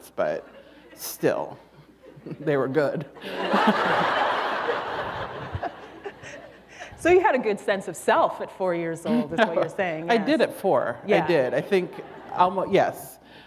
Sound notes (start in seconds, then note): 3.2 laughter